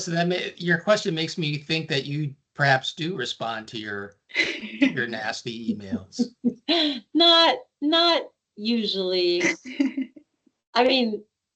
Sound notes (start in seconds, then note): 5.4 laughing